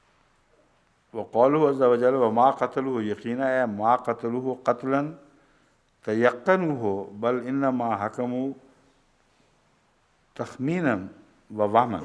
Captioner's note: Arabic